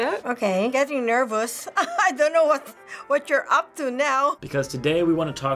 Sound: laughing

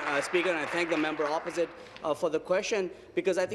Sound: applause

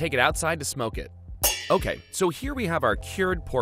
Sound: pans clanging

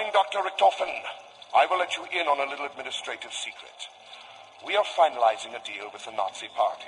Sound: in a defeated voice

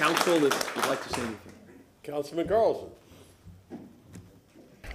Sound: applause

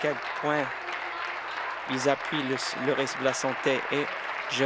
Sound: applause

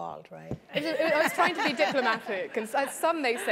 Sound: laugh

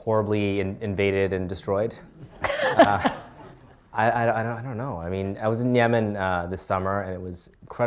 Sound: laughter

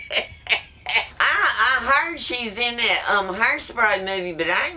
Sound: laughs

